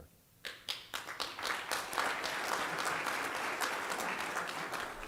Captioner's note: applause